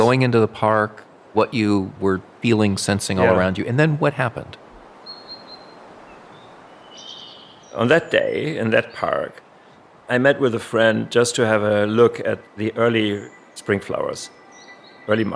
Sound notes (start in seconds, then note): 5.6 birds chirping